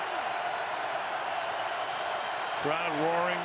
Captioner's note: cheering